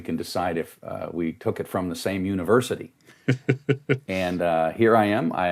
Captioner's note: laughing